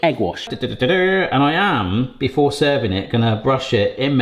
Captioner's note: makes a bugling noise